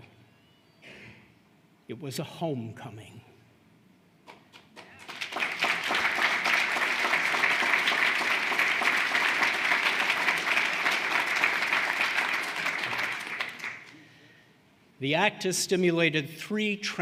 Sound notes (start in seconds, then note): 7.1 applause